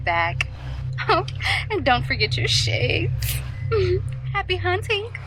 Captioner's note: giggles